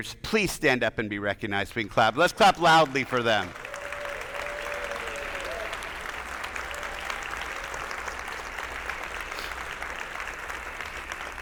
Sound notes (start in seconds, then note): 2.2 attendees applauding; 2.4 attendees cheering